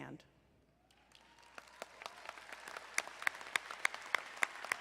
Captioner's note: crowd applauding